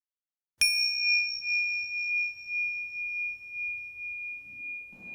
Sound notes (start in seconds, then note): 0.6 bell rings